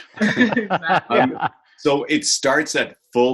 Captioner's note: laughing